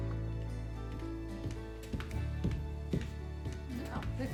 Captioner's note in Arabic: خطى تقترب